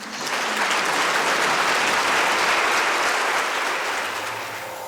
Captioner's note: applause